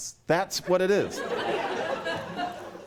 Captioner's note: laughter